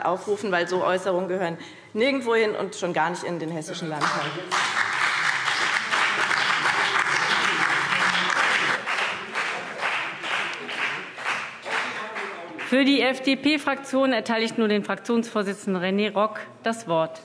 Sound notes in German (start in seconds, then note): 4.0 Beifall BÜNDNIS 90/DIE GRÜNEN und CDU